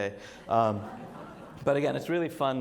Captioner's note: audience laughs